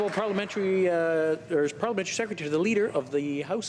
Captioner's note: some Applause